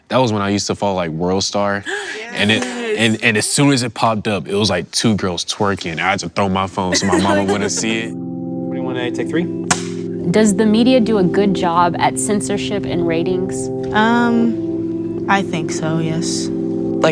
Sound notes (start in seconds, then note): 1.8 gasp; 8.3 soft music